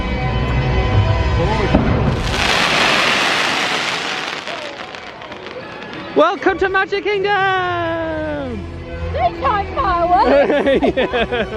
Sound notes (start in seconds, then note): 1.7 fireworks exploding